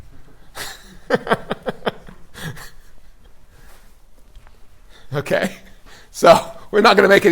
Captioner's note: laughs